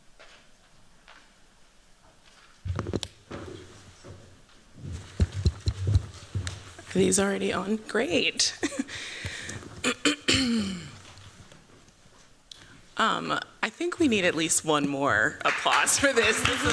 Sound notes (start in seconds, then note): 8.5 chuckles